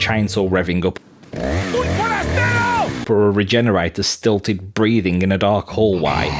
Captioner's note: chainsaw revs up, villager yells; regenerator’s stilted breathing